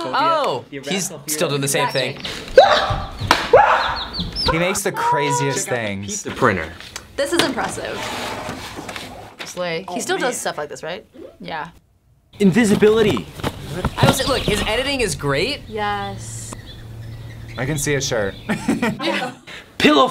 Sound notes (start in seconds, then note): 2.5 screams; 18.4 laughs